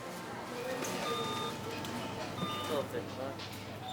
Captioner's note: checkout beeping